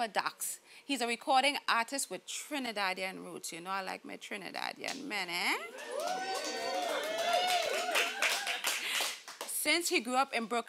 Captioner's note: applause